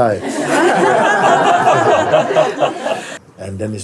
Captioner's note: Lachen